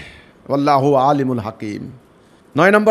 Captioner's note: Arabic